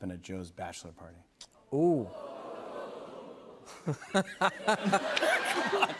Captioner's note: laughs